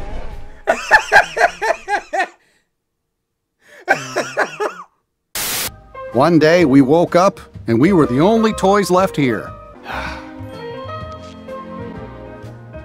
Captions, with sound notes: (laughs) (static) - One day we woke up and we were the only toys left here. (childlike music)